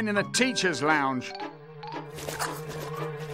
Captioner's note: footsteps squishing